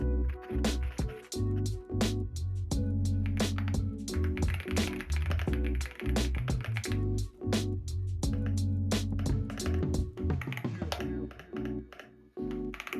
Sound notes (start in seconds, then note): 4.1 keyboard asmr